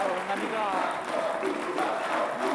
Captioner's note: Applauso